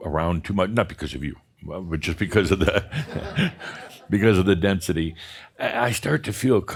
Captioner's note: chuckling